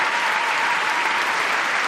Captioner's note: applause